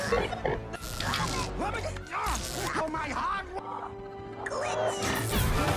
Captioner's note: giggling; glitching